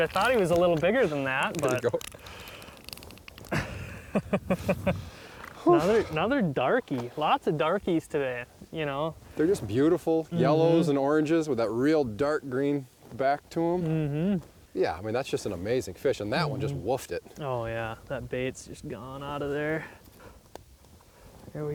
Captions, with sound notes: I thought he was a little bigger than that, but . . . - Here you go. (laughing) - Another darkie, lots of darkies today. - They're just beautiful, yellows and oranges with that real dark green back to 'em. Yeah, I mean, that's just an amazing fish, and that one just woofed it. - Oh, yeah, that bait's just gone out of there.